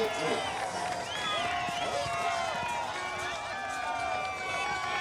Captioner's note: crowd cheering